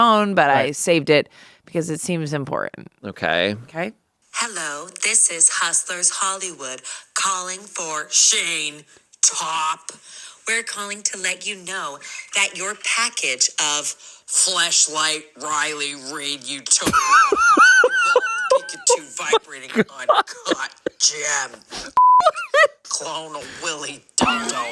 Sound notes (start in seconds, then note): 16.8 laughs; 22.0 beep